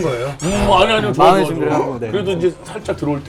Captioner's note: heart pounding